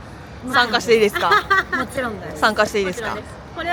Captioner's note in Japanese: 笑い